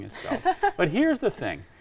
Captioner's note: laughing